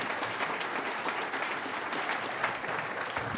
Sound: applause

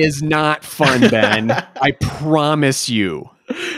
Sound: laughing

